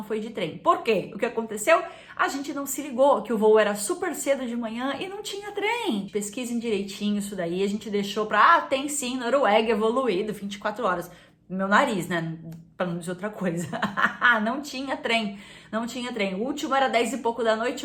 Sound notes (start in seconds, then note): 13.2 laughs